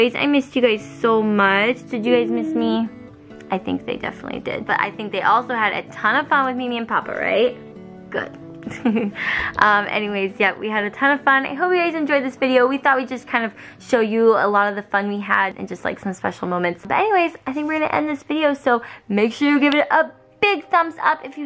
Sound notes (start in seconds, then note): 8.9 laughs